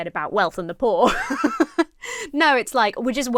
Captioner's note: laughs